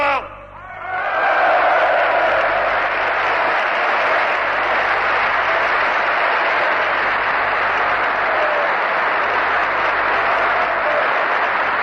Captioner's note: applause